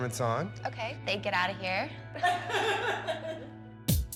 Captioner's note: laughter